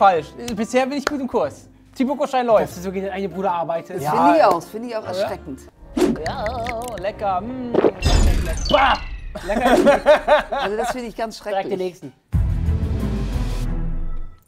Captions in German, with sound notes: Bisher bin ich gut im Kurs. Dass du so gegen deinen eigenen Bruder arbeitest ... Das find ich auch erschreckend. (Ekelgeräusche) Lecker! Das find ich ganz schrecklich. - Direkt der Nächsten. (Spannungsvolle Musik)